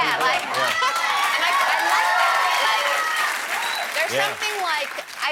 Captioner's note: applause